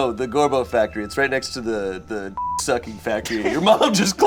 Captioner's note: beep